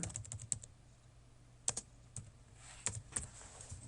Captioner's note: typing